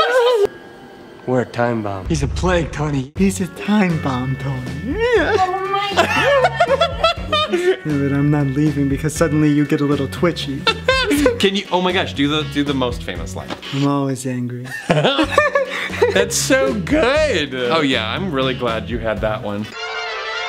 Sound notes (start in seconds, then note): 0.0 laughs; 10.6 laughs; 14.6 both laugh